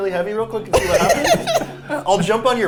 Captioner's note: laughing